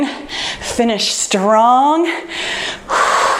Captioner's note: exhales